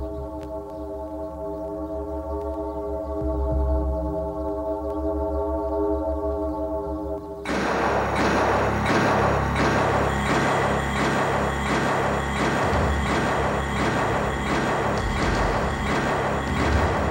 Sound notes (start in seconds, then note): 7.4 dramatic synth music; 7.4 gun firing